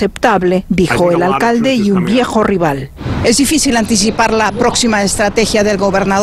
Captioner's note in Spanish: habla en ingés